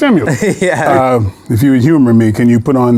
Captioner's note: chuckles